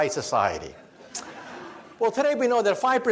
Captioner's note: audience laughs